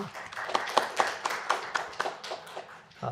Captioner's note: applause